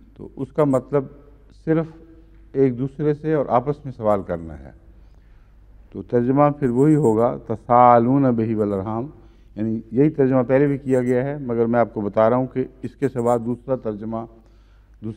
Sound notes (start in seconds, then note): 8.3 Arabic